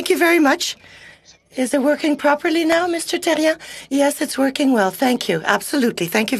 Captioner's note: speaking in french